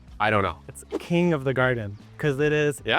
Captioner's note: wind whipping